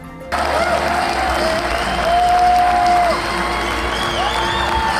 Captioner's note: crowd clamoring and clapping